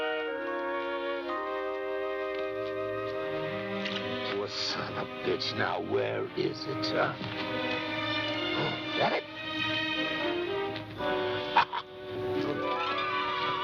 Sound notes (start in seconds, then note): 3.8 chattering; 9.3 chuckles